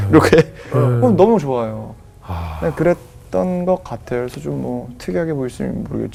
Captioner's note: laughing